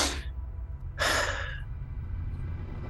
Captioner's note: sighs